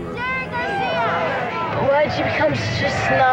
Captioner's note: crowd shouts